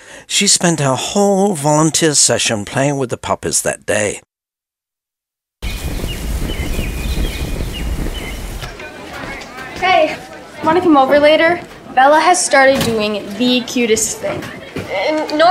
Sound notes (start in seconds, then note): 5.6 birds chirping; 8.6 students chattering